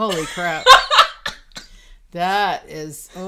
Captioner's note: laughing